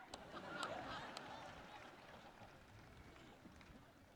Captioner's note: audience laughs